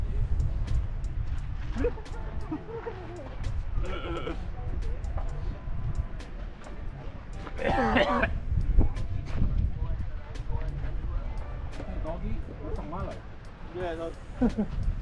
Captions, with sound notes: *Laughs* *Coughs* Hey doggy Looks like Milo Yeah it does *Laughs*